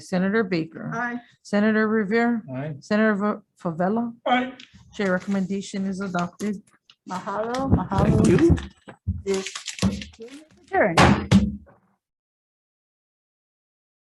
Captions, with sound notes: Senator Baker. - Aye. - Senator Riviere. - Aye. - Senator Fevella. - Aye. - Chair, recommendation is adopted. (speaking in foreign language) This meeting is adjourned. (bagel banging)